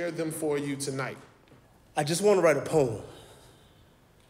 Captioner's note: none